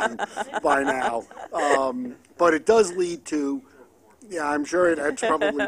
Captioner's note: laughter